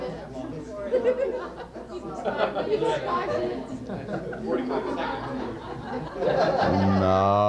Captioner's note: FACETIOUS REMARKS AND LAUGHTER: "Five minutes," "45 seconds," etc